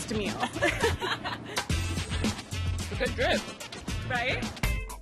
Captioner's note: laughter